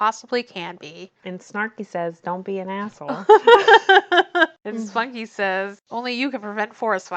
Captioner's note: laughs